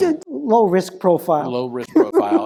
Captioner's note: laugh